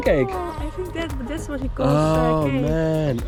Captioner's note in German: murmelt